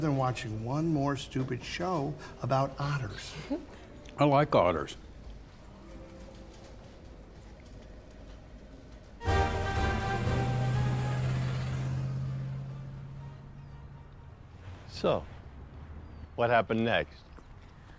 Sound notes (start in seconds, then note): 6.7 silence; 9.2 marching band music; 9.2 truck buzzing